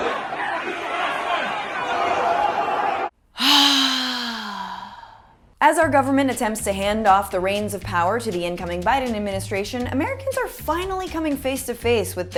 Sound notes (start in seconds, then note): 0.0 chaotic sounds and screaming; 3.3 sigh